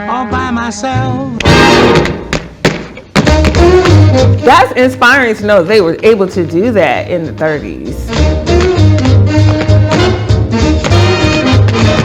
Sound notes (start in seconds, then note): 2.0 tapping